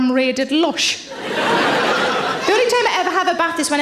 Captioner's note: audience laughs